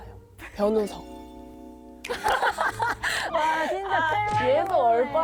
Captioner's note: laughter after awkward silence